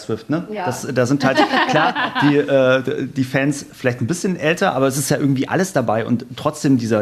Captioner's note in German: gelächter